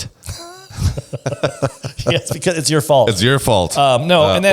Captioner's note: laughs